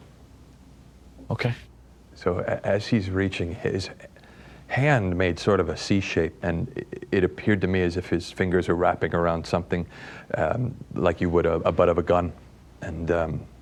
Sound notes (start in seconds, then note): none